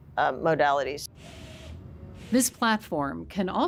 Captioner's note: device whirring